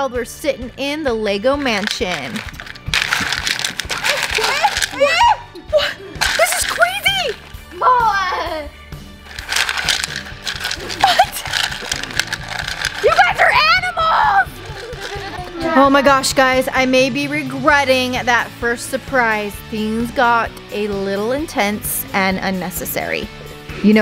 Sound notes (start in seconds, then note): 4.2 children cry out; 7.7 child exclaims; 14.7 children laughing